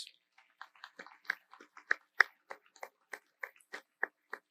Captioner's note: audience applauds